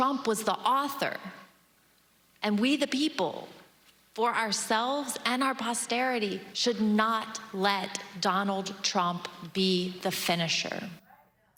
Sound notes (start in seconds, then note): none